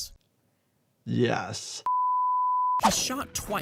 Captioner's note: screen beeps